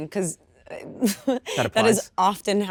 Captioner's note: Kristen chuckles